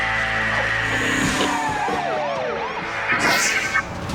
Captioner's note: siren wails